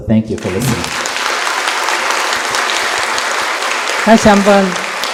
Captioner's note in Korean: 청중 박수